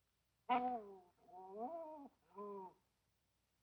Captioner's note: dog whining